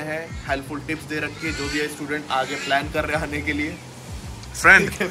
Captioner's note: cockatoo squeaks